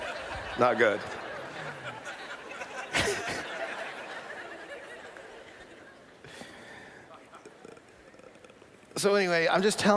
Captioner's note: laughter